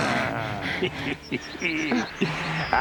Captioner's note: Wild Eye chuckles